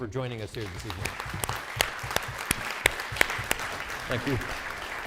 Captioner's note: audience applauding